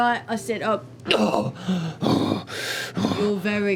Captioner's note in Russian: хватает ртом воздух и тяжело дышит